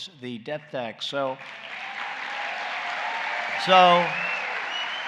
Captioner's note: applause